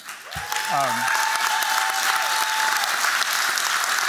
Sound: applause

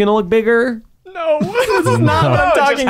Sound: laughing

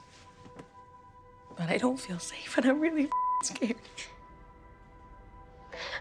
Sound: beep; Vicky sobbing

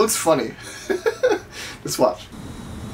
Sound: laughs

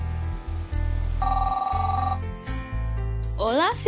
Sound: phone rings

